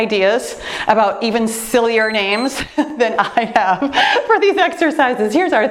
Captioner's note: timer beeps